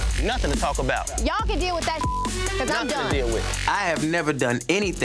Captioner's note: beep